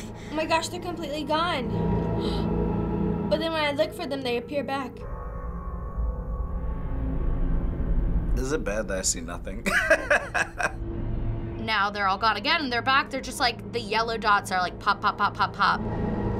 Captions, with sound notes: - Oh my gosh. They're completely gone. (gasps) But then when I look for them, they appear back. - Is it bad that I see nothing? (laughs) - Now they're all gone again. They're back. The yellow dots are like, pop, pop, pop, pop, pop.